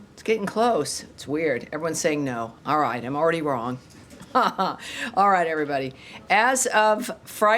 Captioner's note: laughter